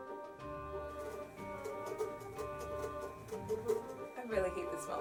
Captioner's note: sawing